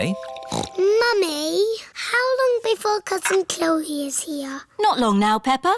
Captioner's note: snorts